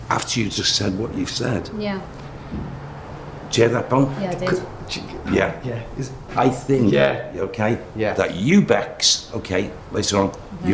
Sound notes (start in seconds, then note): 2.1 thudding